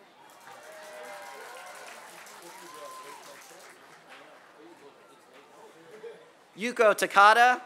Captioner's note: applause